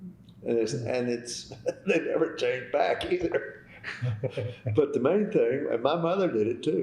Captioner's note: laughter